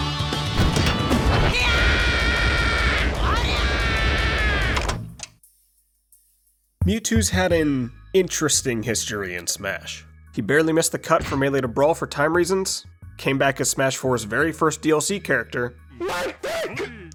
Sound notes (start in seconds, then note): 1.3 Mii screaming extremely violently